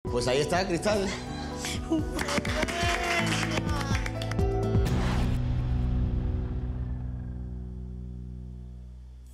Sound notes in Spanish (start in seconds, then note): 2.0 aplausos